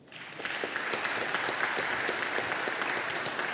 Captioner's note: audience applauding